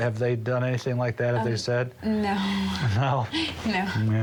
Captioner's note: chuckling